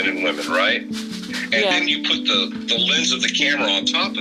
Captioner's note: via phone